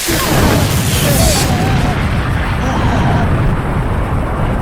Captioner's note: Laser explodes, Baker screams in pain